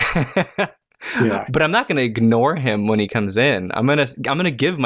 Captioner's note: laughter